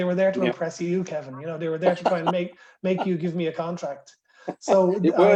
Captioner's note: laughter